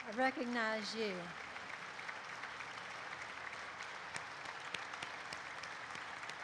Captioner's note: audience applauds